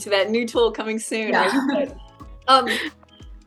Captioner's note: laughs